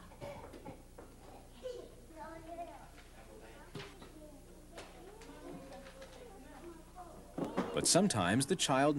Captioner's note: people talking